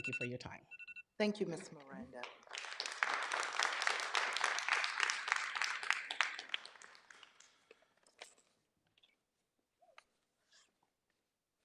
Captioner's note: clapping